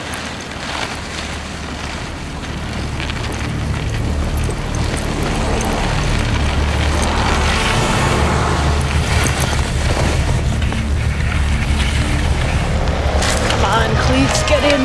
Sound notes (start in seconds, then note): 7.4 car Horn Blares; 14.6 bus Engine Whirs